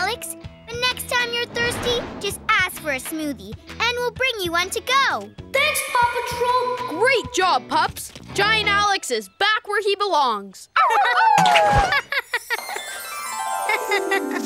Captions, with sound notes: And next time you're thirsty, just ask for a smoothie, and we'll bring you to go. -Thanks Paw Patrol! -Great job, pups. Giant Alex is back where he belongs. [howling] [laughing]